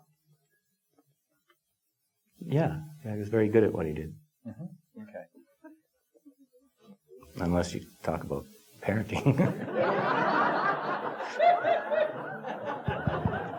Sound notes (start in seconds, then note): 9.2 audience laughing